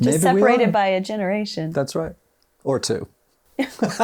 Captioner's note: laughs